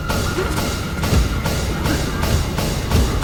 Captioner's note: Max gasps